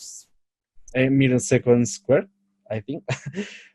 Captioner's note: laughs